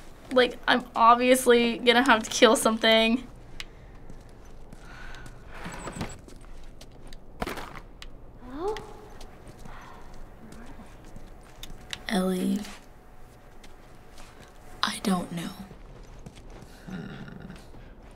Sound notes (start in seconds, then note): 5.6 objects rattle; 5.6 drawer creaks